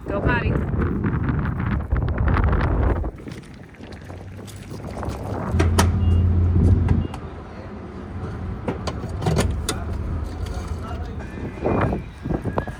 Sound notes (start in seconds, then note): 0.2 wind whooshing; 8.5 gas pump clicks